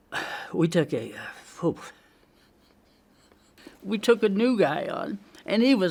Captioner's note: inhales